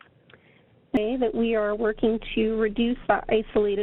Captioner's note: audio cutting out